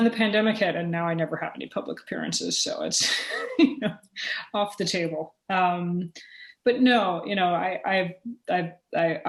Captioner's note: chuckle